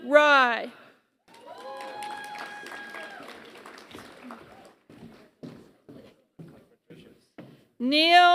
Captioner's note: applause